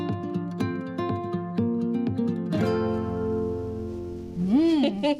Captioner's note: laughs